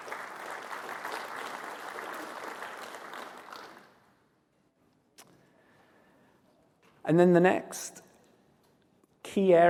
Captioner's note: applause